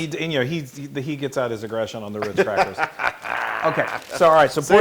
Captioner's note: laugh